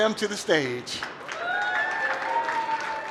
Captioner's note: cheering